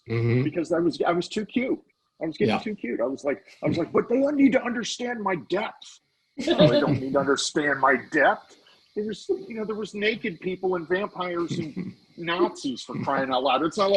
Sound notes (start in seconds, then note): 6.4 laughing; 11.6 laughing